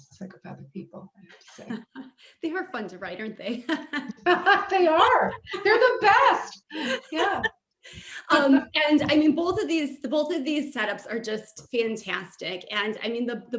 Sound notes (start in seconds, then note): 1.0 laugh; 7.8 all laugh